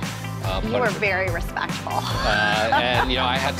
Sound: laughing

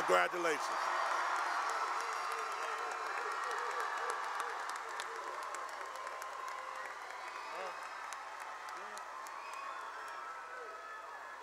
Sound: cheering and applause

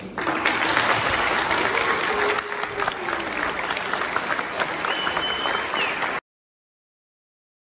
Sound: applause

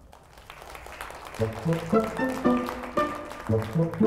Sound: applause

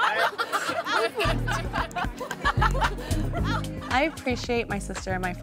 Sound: girls laughing

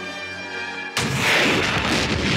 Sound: dramatic music; launcher fires; explosion roars

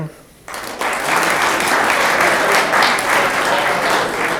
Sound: room applauds

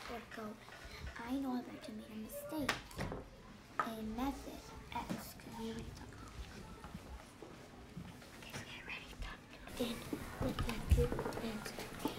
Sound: students working quietly in the background

